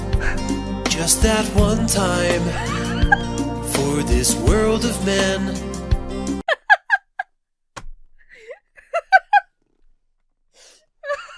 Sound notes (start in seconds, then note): 0.2 Emma chuckles quietly; 2.4 Emma laughs; 6.4 Emma laughs